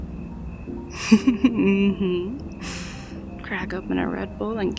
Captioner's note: teasing salaciously